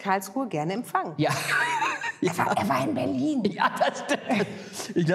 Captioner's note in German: lacht